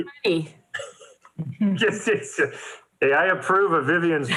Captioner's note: laughs